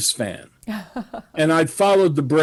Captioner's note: laughs